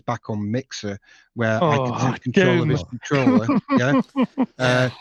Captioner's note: laughing